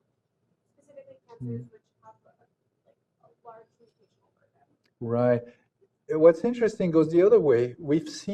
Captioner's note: off microphone